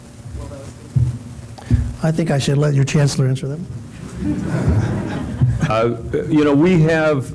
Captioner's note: laughter